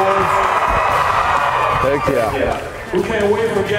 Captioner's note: crowd cheering